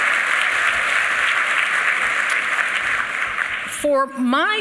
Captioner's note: applause